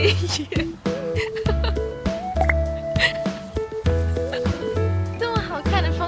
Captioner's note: laughing